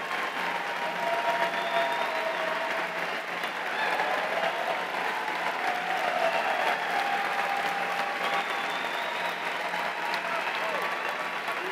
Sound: cheers and applause

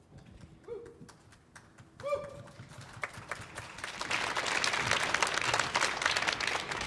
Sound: audience applauding

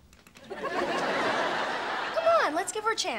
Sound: audience laughing

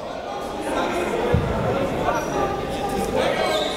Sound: chatter

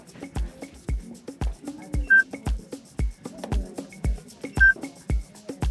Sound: timer beeping; timer beeping

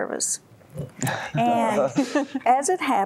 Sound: laughter

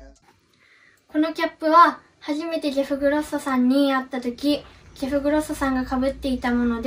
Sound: speaking foreign language

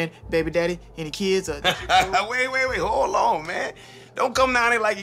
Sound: laughs

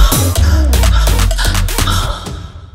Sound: heavy breathing

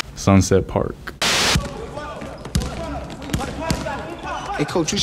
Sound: players dribbling

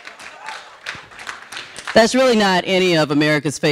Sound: audience applauding

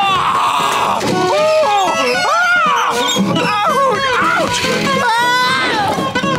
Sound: screaming

